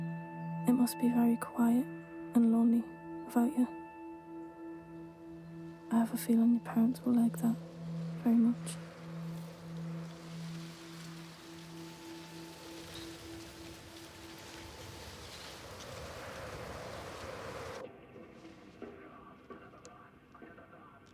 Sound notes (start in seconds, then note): 9.0 leaves rustling; 15.6 wind whistling